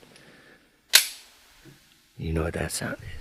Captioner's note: gun loads